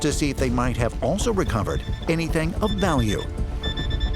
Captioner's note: beeping